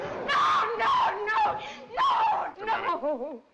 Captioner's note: sobbing